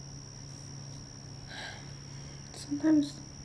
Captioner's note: sighing